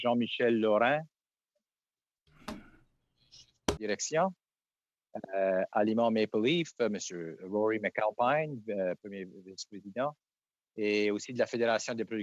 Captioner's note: speaking French